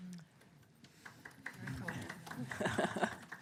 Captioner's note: applause